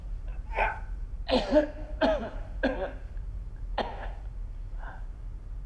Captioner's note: coughing continues